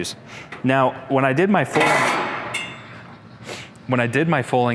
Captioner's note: loud metal clink